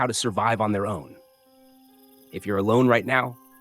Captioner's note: pause